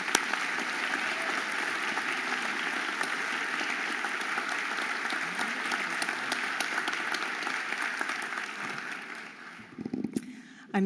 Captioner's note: audience applauding